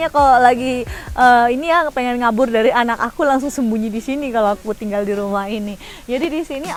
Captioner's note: laugh